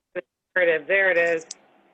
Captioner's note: phone